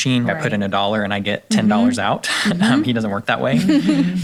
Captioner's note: chuckles